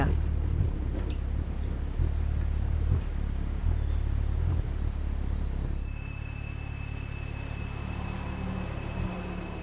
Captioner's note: birds chirping